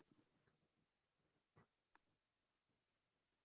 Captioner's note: squeaking